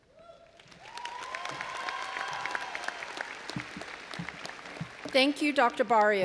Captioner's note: all applauding and cheering